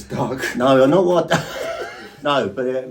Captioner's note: laughing